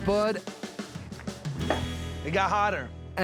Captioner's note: stomps ground